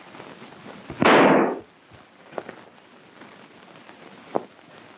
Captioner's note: gun firing